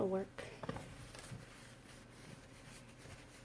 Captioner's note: rustling